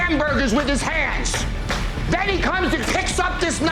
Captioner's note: hands clapping